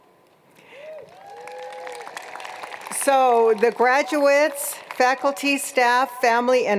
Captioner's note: applause